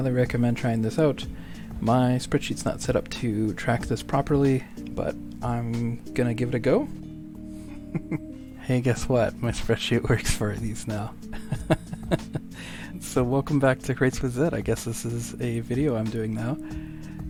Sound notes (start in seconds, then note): 7.8 laughter; 11.3 laughter